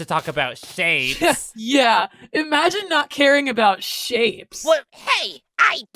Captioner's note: scoff